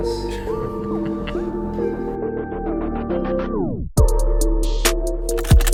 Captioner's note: episode music; man laughing